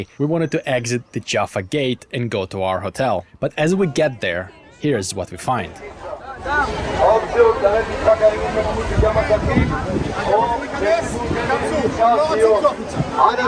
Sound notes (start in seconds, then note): 7.2 policeman speaking on microphone